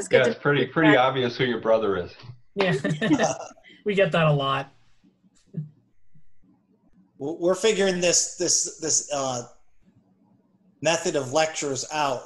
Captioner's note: laughter